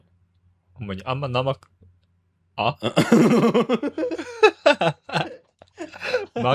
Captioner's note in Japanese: 笑い